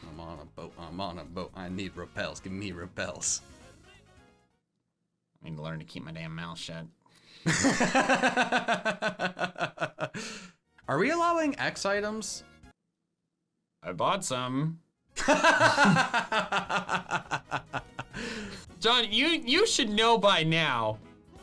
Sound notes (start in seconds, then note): 7.5 laughing; 15.2 laughing